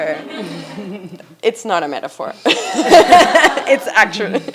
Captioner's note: laughs